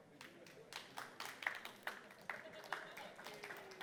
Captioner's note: applause